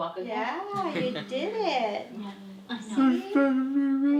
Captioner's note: chuckles